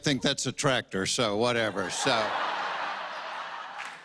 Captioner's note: laughter